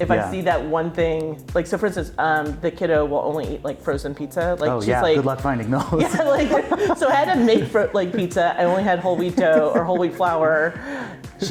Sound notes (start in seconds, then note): 5.8 laughing